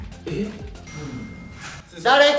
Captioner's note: phone notification chimes